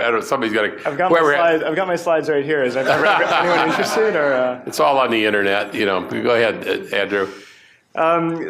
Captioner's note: laughter